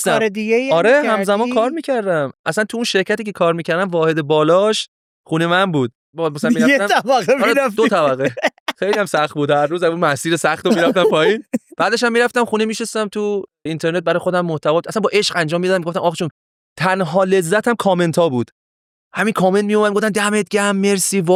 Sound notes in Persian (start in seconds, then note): 6.4 خنده